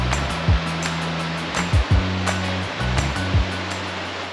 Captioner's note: running water sounds